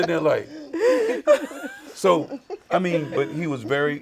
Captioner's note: group laughing